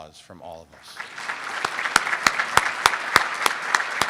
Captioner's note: applauding